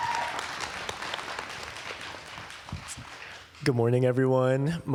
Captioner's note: applause